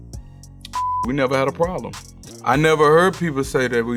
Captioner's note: beep